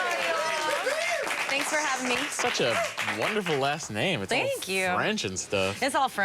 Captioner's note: applause